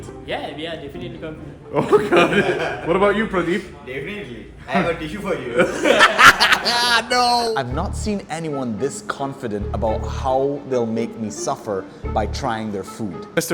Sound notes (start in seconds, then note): 1.8 laughs; 5.6 all laugh